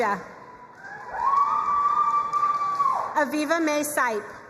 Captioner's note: crowd cheering and applauding